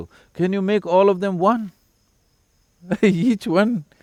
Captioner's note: laughs